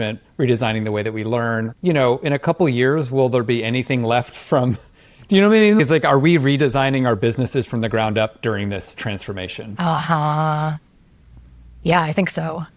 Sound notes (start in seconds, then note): none